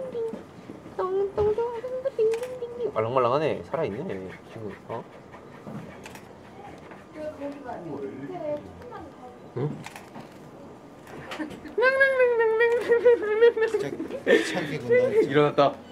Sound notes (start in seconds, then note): 11.7 makes baby noises